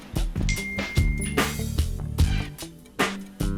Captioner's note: ding